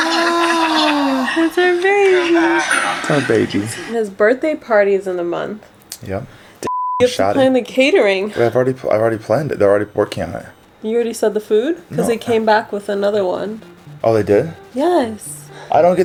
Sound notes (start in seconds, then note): 6.6 beep